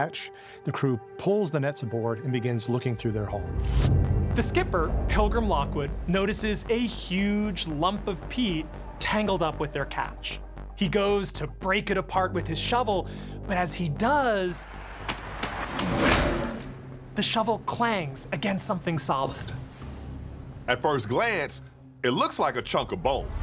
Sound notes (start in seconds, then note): 15.1 shovel clanging